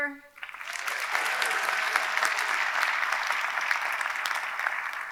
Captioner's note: audience clapping